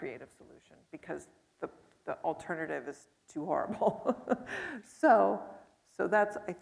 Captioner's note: chuckles